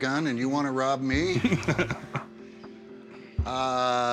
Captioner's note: laughs